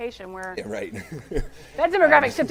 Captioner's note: laughing